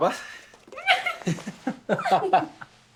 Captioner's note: excited; squeals with excitement